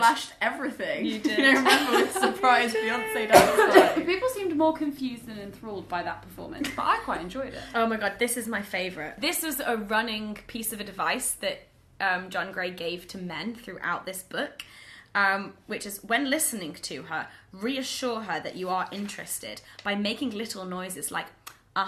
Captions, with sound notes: - Last time, I flashed everything. - You did. (laughs) - You don't remember, with surprise fiance dance party? (coughs) - You did! - People seemed more confused than enthralled by that performance, but I quite enjoyed it. - Oh my God, this is my favorite. This is a running piece of advice that John Gray gave to men throughout this book. Which is, when listening to her, reassure her that you are interested by making little noises like,